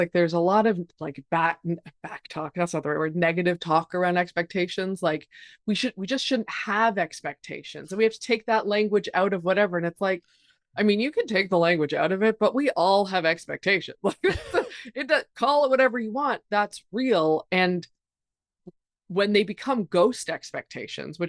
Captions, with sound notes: Like there's a lot of, like back talk, that's not the right word, negative talk around expectations. Like we just shouldn't have expectations and we have to take that language out of whatever. And it's like, I mean, you can take the language out of it, but we all have expectations. (chuckles) Call it whatever you want. That's real. And when they become ghost expectations,